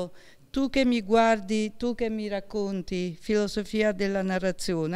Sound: speaking in Italian

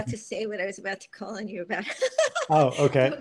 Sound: laughs

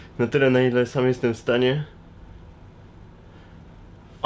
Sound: none

